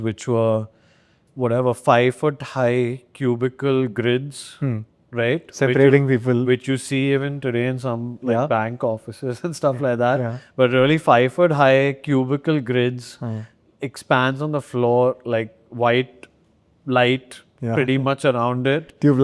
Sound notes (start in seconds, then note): 9.5 chuckles